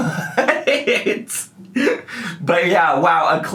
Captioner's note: man chuckling